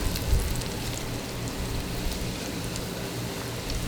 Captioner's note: sounds of dough frying